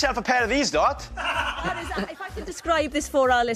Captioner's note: laughter